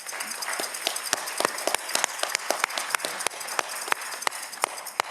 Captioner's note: audience clapping